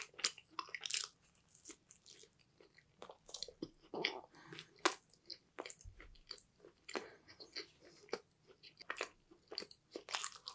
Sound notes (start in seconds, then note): 3.8 weird tummy sound